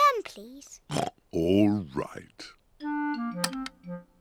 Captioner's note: oinks